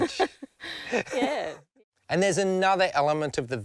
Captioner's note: laughs